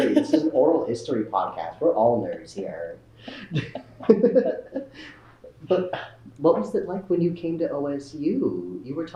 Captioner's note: laughter